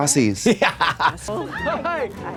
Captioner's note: Katya chuckles